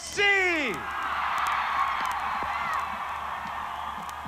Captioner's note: audience cheers